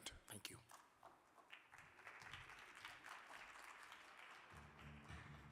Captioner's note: audience clapping